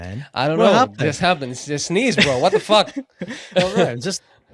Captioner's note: laughs